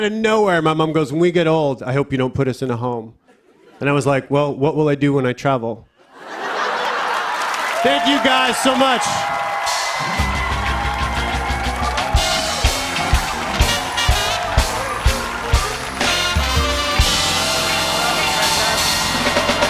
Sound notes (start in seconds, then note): 5.8 laughter and applause; 9.1 cheers and applause